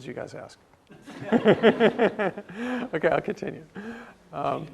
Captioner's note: laugh